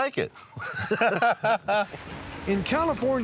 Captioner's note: laughter